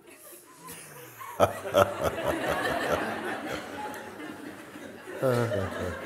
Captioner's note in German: Mooji und die Sangha lachen